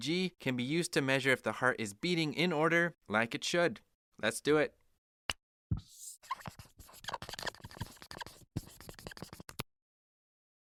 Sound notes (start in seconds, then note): 5.7 super fun sounds of marker on whiteboard!